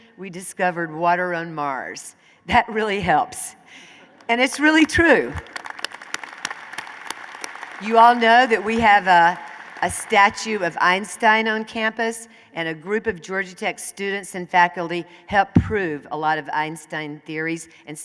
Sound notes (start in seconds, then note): 4.2 applause